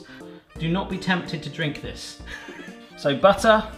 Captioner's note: laughs